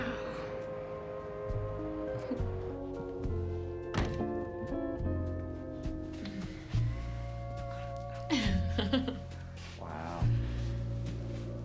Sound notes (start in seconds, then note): 8.1 laughs